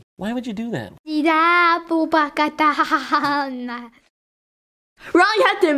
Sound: speaking in foreign language

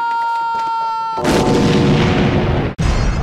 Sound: crash

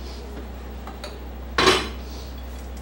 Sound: sniffle

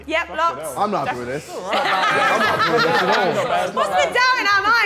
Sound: all laughing

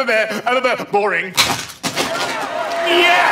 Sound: stammering; clattering; applause

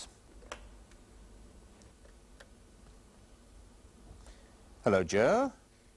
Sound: pause

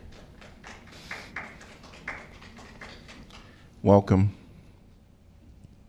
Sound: applause

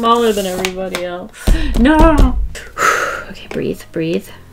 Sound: deep exhale

